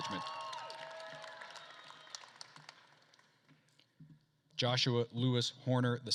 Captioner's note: attendees cheering and applauding